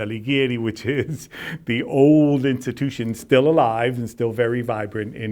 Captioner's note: chuckles